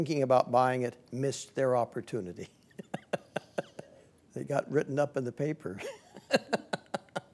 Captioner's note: laughing; laughing